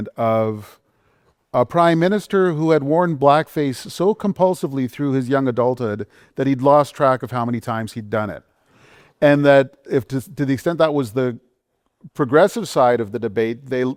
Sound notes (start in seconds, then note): none